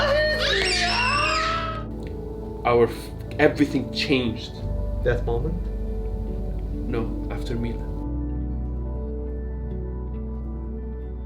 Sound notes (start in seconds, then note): 2.4 speaks in English